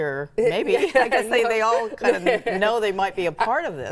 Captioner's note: laughs